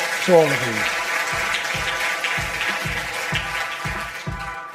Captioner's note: audience applause; upbeat music